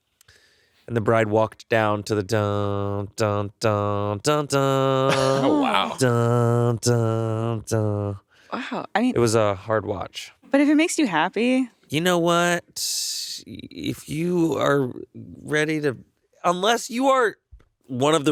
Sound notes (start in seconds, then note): 2.7 humming